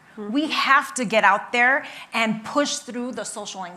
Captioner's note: none